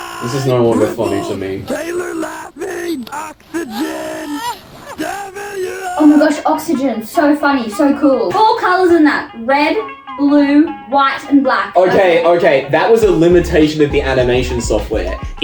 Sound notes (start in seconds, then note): 1.6 Dark Girl laughs; 6.3 sarcastic